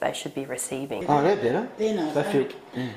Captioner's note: murmurs